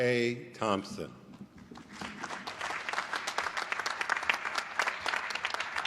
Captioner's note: applause